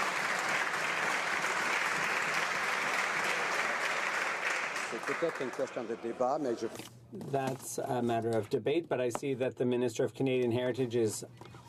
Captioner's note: some Applause